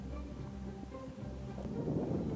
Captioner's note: none